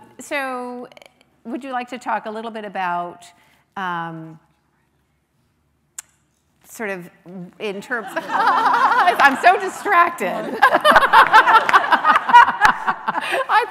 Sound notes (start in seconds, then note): 10.3 laughing; 10.3 laughs